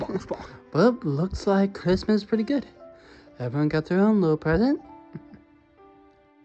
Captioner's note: chuckles